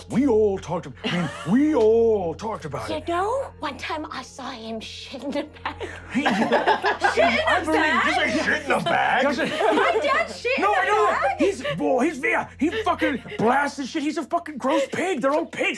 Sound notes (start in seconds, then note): 5.4 laughing